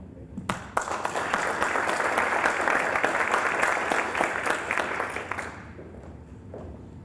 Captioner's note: applause